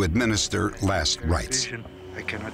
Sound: on phone

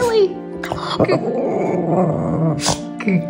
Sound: howling

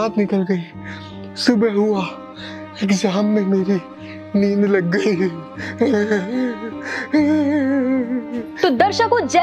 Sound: crying!!

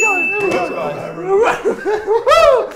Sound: ding

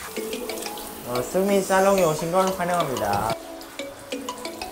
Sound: warmly greeting

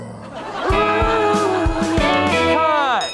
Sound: laugh track

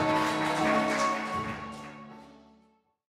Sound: applause

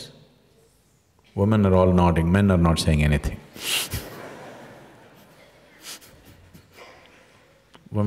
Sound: laughter

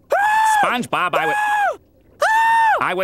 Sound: screaming

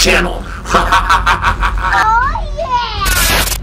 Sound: evil laughter

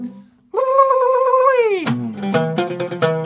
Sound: ululating

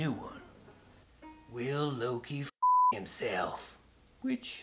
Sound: beep

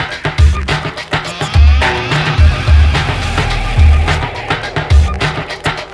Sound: distorted shouting

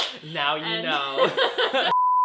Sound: laughs

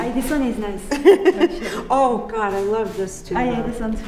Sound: laughs

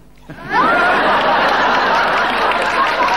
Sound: audience laughing

